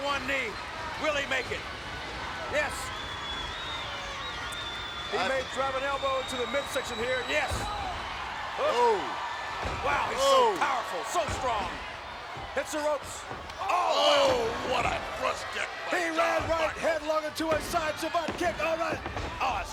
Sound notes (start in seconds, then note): 13.5 commentators exclaim